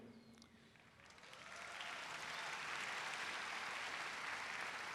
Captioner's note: audience applauds